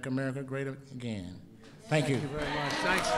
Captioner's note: applause